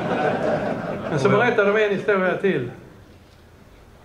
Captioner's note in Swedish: Skratt